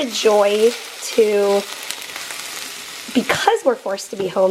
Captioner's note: sizzling sounds